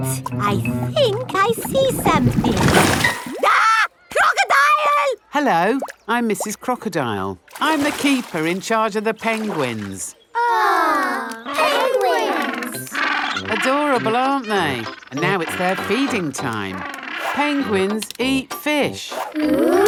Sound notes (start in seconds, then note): 3.4 screams; 11.2 penguins chatter